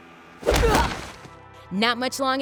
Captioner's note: grunting